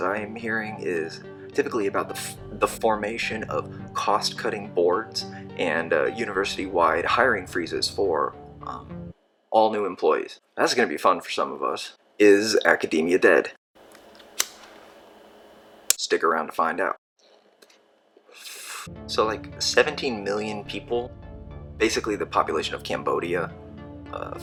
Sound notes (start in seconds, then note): 13.9 click of a lighter